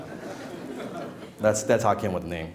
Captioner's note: laughing